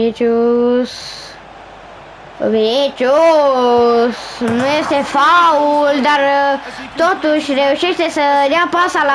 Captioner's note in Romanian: Aplauze